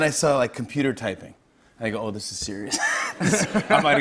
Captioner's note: laughter